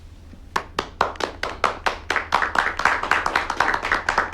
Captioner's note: people applauding